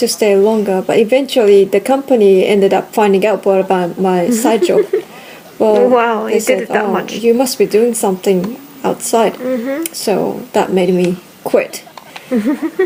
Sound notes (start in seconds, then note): 7.1 laughs